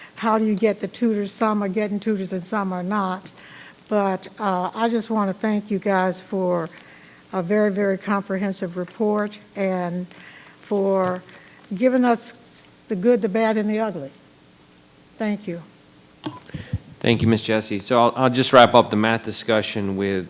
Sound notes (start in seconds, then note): 16.2 microphone beeping